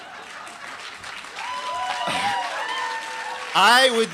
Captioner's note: applause